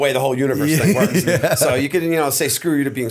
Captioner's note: laughter